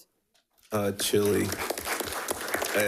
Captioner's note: attendees clapping